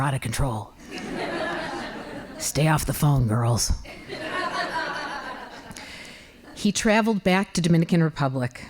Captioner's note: laughing